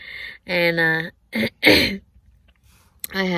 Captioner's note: clears throat again